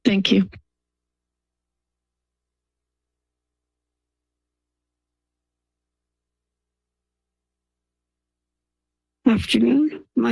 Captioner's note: silence